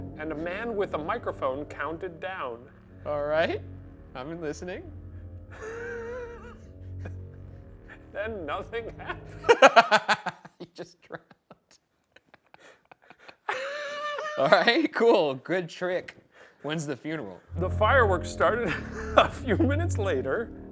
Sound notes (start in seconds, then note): 6.4 laughs